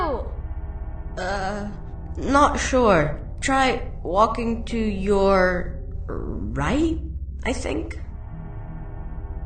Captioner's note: scared